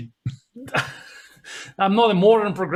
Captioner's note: laughing loudly